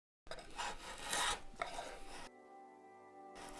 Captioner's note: wood scraping